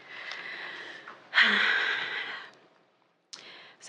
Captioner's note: exhaling